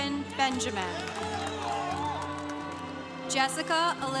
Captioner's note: congregation cheering